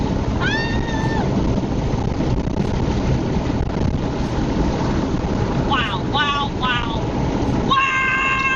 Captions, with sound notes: (screams) Wow, wow, wow, wow!